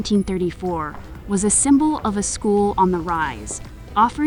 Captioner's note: campus hallway ambience